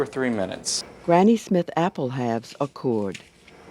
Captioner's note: voiceover